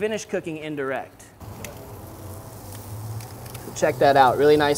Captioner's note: pork sizzles